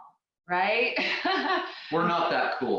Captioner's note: laughing